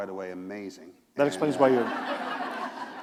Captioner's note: laughter